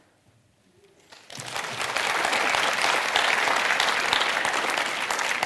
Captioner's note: audience applauding